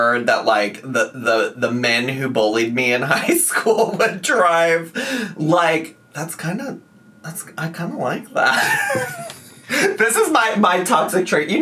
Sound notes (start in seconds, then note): 8.5 laughing